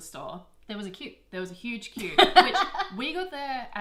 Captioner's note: laughs